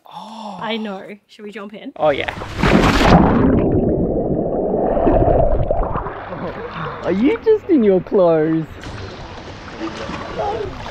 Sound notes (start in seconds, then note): 0.0 gasps; 2.8 water splashing